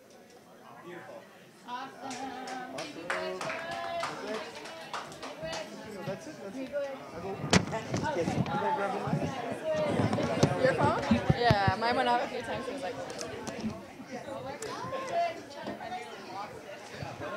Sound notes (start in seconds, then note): 2.0 clapping; 3.4 background chatter